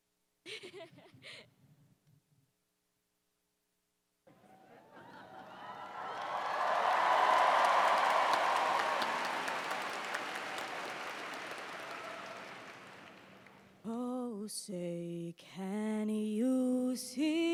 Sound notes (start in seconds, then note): 0.5 laughs; 5.0 cheers and applause